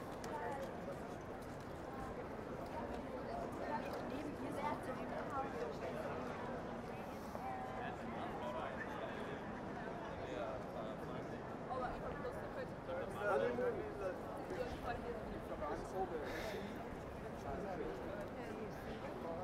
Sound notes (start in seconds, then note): 0.2 people speaking in the background; 14.3 breathes in; 14.3 people speaking in the background; 16.4 tiny, exasperated, voiceless chuckle; 17.6 people speaking in the background